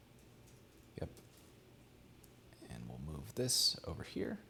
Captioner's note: none